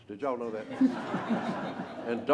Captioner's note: laughter